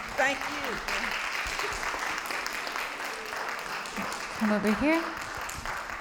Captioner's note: audience applauding